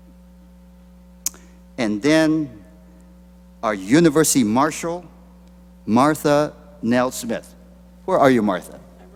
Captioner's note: none